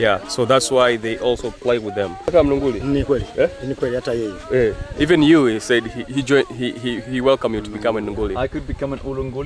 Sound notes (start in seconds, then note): 2.3 speak in foreign language